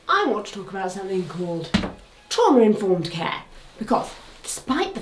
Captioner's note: stick thuds